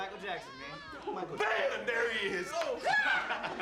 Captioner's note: laughter